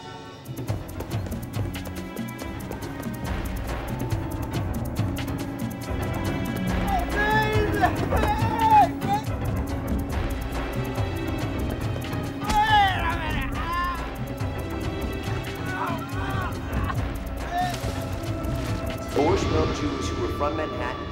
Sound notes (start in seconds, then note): 0.1 upbeat music; 7.3 Thomas groans